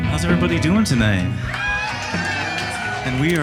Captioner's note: audience applauding and cheering